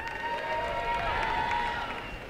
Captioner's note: applause and cheering